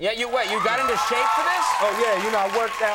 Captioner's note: crowd cheering